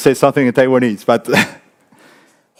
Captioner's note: speaks in foreign language